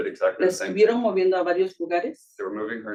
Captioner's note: speaking Spanish